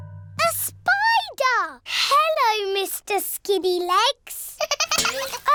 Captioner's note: giggling